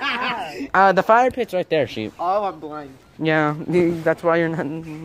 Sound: mumbles

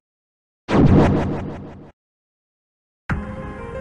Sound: teleporty noise

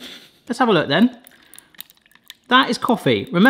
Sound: coffee sloshing

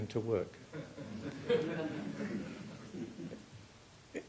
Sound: chuckling

